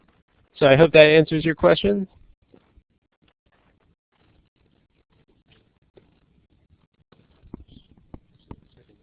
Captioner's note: pause